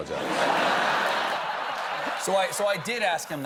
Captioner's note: laughter